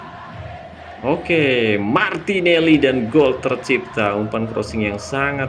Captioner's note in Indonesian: bersorak